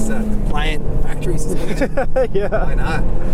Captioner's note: laughter